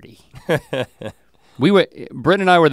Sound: chuckles

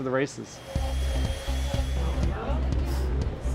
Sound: appliances whirring; people chattering

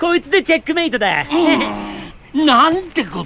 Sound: Sonic does his cute chuckle again. Hehe

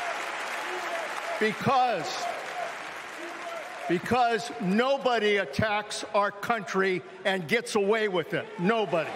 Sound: cheering

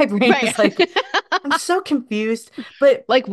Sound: laughs

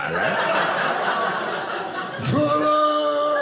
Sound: audience laughing

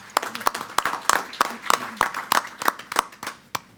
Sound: applause

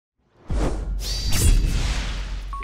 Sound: swoosh; sword slash

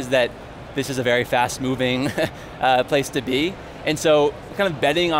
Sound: laughs

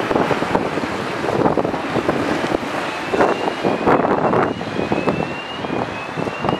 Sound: alarm Sound

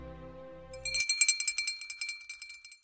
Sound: ringing bell

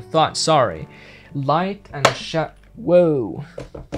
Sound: thud

